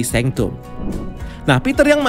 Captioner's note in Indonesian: suara transisi